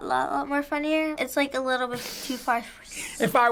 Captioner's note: snorting